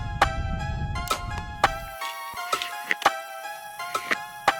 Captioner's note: arrow whooshes